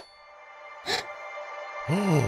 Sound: gasps

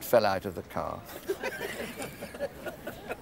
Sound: couple laughing

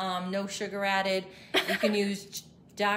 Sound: laughs

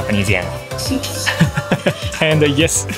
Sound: chuckles

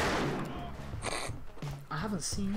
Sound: pig snigger

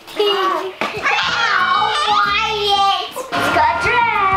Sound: playful screaming

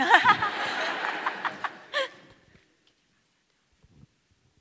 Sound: audience laughing

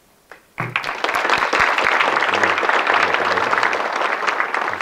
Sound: audience clapping

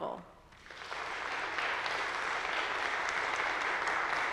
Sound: audience applauding

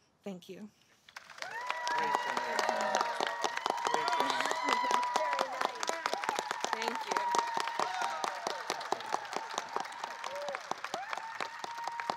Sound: applause

